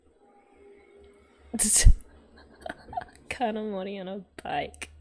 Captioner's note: laughs